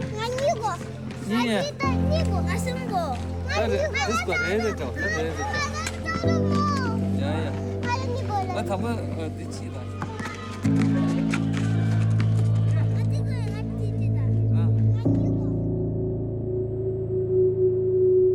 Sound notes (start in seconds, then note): 0.1 speaks foreign language; 1.5 people speak foreign language; 5.3 child speaks foreign language; 7.3 speaks foreign language; 8.2 child speaks foreign language; 9.0 speaks foreign language; 11.0 ball thudding; 13.1 child speaks foreign language